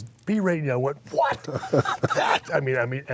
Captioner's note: laugh